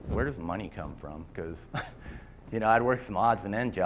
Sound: laughter

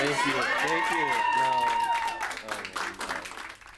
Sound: applauds

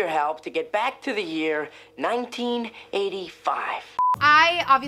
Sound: beep

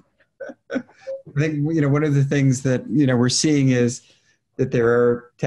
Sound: laughs

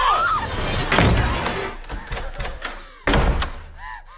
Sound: door slams; hand bangs

